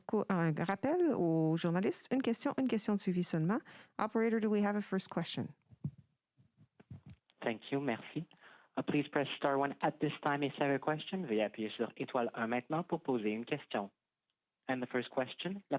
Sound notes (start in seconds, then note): 2.0 speaking french